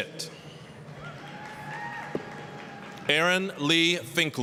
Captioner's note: applause, cheering